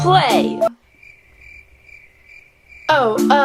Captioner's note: crickets chirping